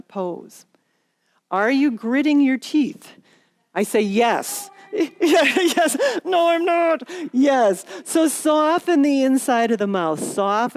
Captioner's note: laughter